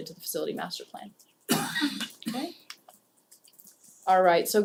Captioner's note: cough